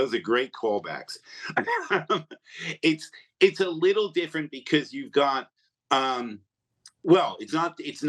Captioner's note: laughs